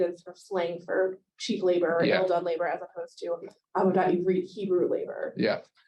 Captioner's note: Hebrew